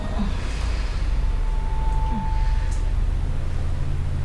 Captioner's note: Yuen grunting